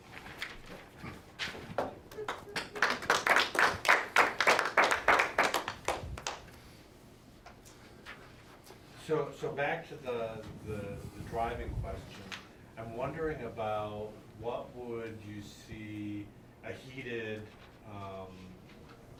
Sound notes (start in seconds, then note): 3.2 audience clapping